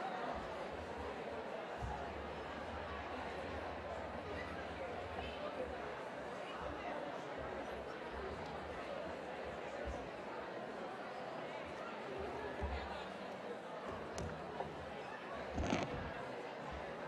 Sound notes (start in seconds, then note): 9.5 background chatter